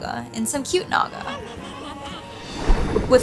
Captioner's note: Naga babbles